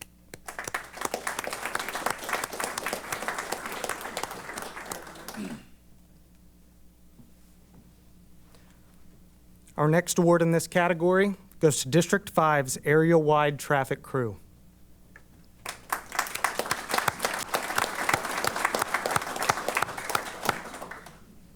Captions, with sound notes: [APPLAUSE] Our next award in this category goes to District 5's area-wide traffic crew. [APPLAUSE]